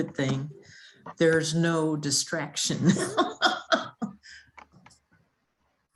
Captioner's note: laughs